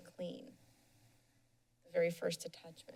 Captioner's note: pause